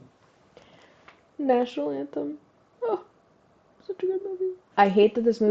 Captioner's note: small voice